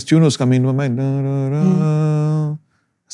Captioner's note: humming